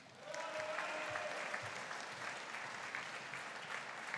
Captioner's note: audience cheering